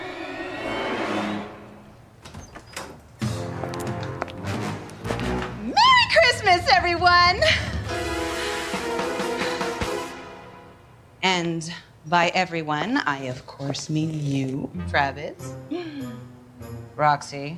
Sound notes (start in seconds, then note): 2.0 door squeaking; 3.2 dramatic music